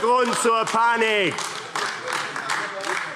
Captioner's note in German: Beifall AfD